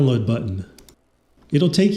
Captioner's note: click click